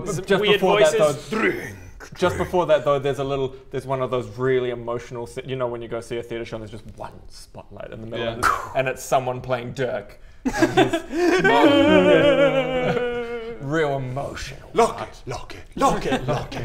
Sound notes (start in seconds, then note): 11.3 tortured wailing